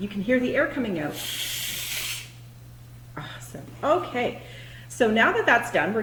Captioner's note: air releasing from the balloon put balloon in front of the camera